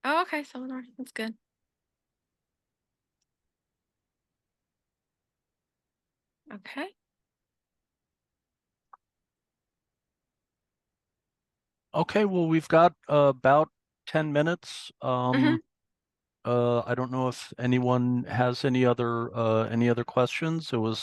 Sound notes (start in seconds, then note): 3.2 silence